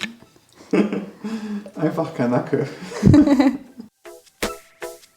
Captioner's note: laughing